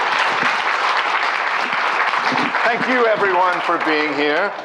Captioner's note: applause